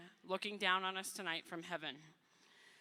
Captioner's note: none